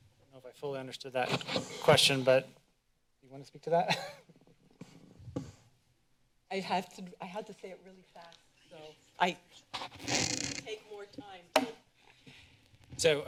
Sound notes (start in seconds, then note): 0.0 silence; 2.1 mic noise; 5.5 laughs